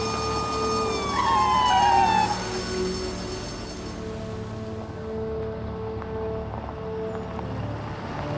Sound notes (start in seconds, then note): 0.0 tires squeal